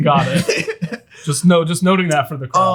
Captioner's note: laughs